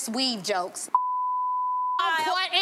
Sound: beep

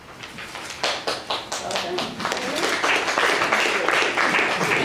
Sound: audience applauding

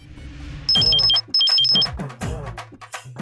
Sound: phone Ringing

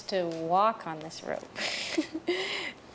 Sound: laughing

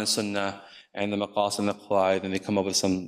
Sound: speaks in foreign language

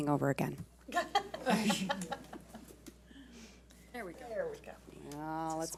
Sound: board laughs

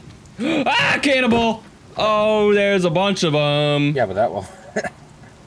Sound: scream

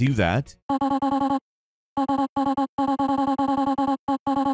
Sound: game beeping

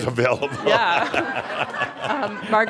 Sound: laughter

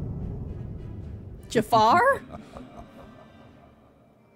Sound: Jafar Laughs

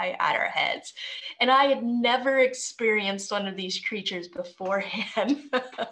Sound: chuckling

